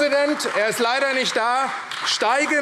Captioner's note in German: Beifall AfD